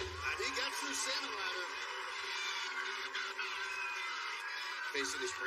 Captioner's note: cheers and applause